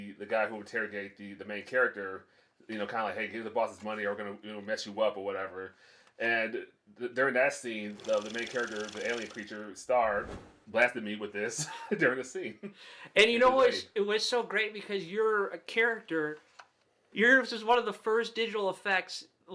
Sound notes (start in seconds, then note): 7.9 reel flickering; 12.7 laughs